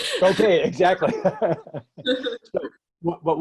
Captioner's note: laughter